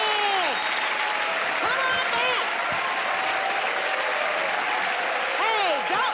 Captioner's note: cheers and applause